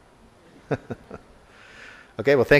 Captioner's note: laugher